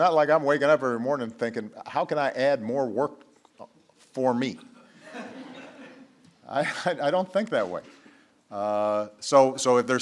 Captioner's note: laughter